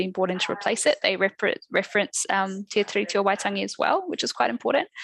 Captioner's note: non-english speech